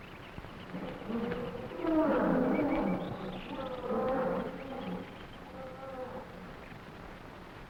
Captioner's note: jungle animals groaning; animals chattering